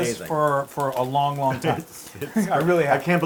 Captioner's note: laugh